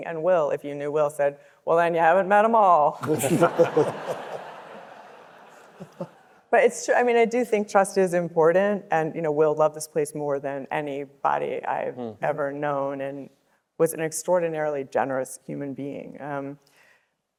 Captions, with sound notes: And Will, if you knew Will, said, "Well, then you haven't met 'em all." (audience laughing) (panelists laughing) But it's true. I mean, I do think trust is important, and, you know, Will loved this place more than anybody I've ever known and was an extraordinarily generous human being.